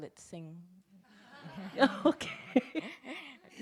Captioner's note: laughs